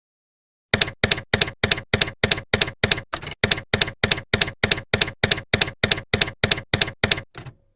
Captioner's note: typewriter keys clacking